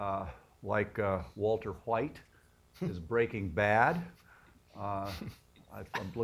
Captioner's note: laughter